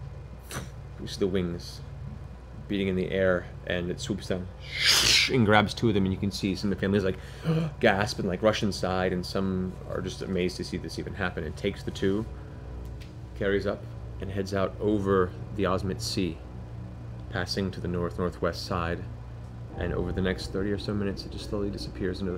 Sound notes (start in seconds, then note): 4.4 swoosh